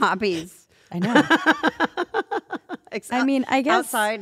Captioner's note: laugh